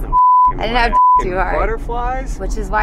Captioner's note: beep